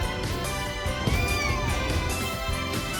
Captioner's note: meows